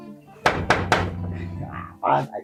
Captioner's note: dook Knock